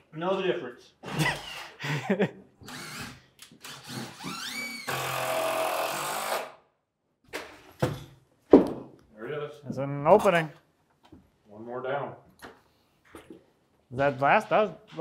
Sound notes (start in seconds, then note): 1.0 laughs; 2.6 drill whirring